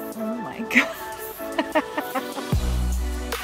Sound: laughs

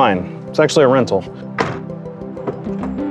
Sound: vehicle hatch closes; door opens

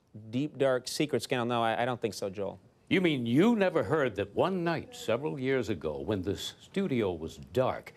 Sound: none

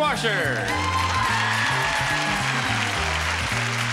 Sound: applause

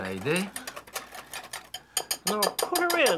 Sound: whisk clattering

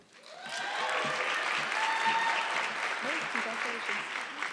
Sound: audience clapping

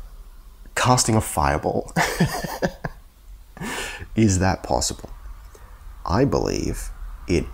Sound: huehuehue

